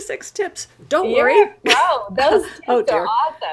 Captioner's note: laughing